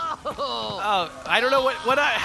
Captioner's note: College Student #1 yells and cries in the background